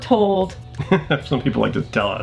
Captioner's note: laughing